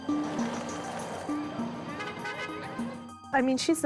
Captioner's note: car horns honk